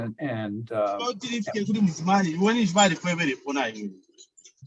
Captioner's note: foreign language 00:27:27